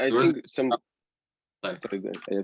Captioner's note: voice muffling